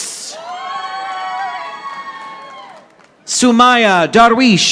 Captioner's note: audience applauding